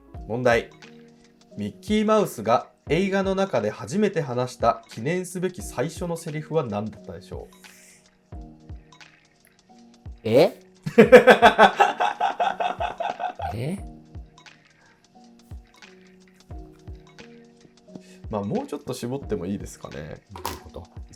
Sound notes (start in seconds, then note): 10.9 laughing